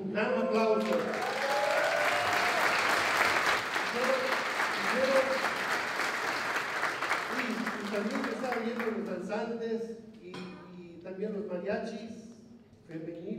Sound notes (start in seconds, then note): 0.0 non-english speech; 0.6 applause; 8.2 non-english speech